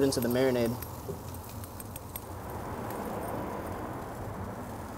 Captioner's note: pork sizzles